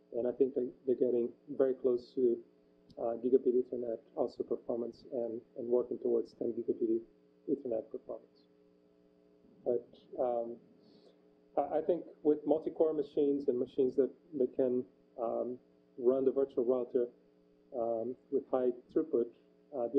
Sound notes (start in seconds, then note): 9.6 pause